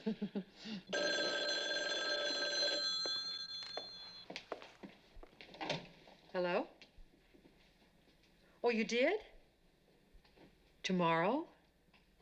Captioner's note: chuckles; phone Ringing